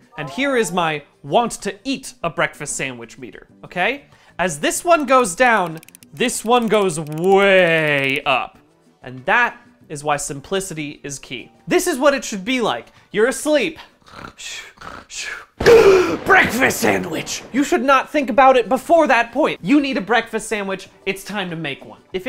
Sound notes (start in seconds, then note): 14.0 honk shoo honk shoo; 15.6 lightning strikes